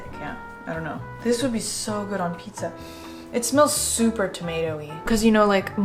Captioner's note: sniffs